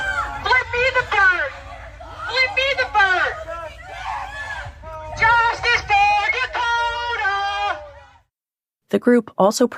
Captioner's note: chanting